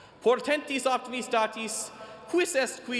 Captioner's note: none